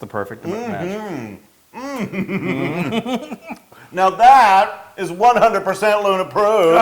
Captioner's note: laugh